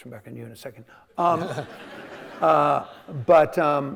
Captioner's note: audience laughing